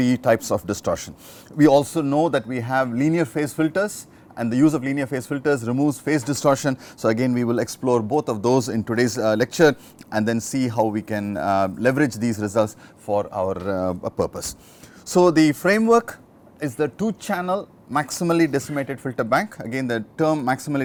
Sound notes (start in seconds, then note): 13.2 distortion